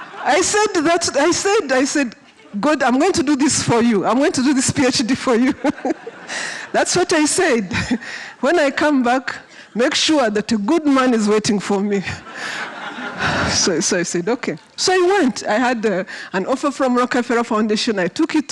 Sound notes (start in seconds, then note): 5.5 laughs